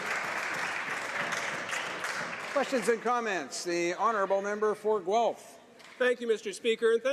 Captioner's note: some applause